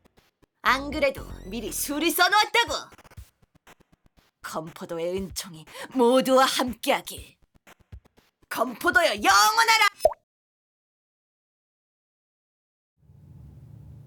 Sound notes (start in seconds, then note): 10.0 pop